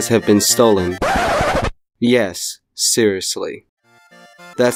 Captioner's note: insert Record Scratch